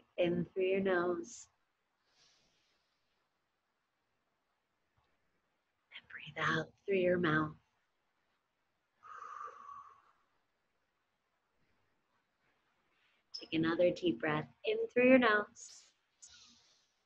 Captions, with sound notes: In through your nose, (inhaling) and breathe out through your mouth. (exhaling) Take another deep breath in through your nose,